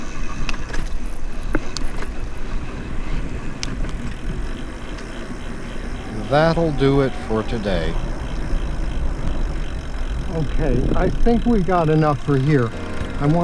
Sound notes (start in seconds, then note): 0.3 click, click...click; 4.0 buzz of freewheel ratcheting; 8.0 buzz of freewheel ratcheting